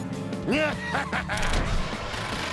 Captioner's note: evil laughter